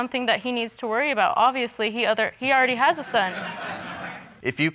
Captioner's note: audience laughs